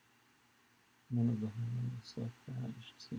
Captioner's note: mumbles